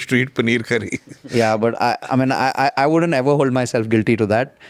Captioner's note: laughs